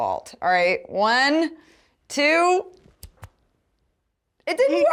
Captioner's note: snap